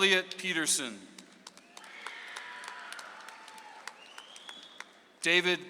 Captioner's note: audience applauds